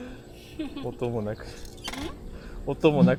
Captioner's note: laughs